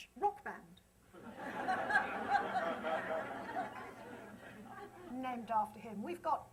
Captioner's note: laughter